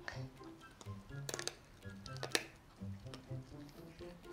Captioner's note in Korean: 까드득